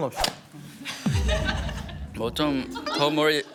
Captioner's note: confident